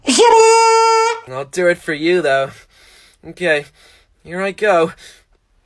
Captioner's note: in a discord cat boy voice; impossibly unsexy, loud, obnoxious cockney accent